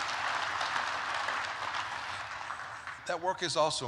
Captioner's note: applause